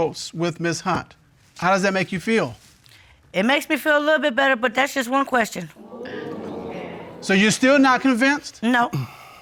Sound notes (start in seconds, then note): 5.8 audience exclaiming